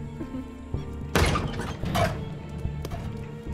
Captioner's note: Door opening